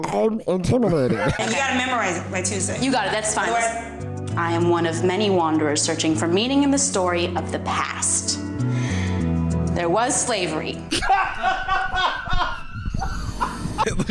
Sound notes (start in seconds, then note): 0.8 laughter; 8.6 deep breath; 10.9 howling with laughter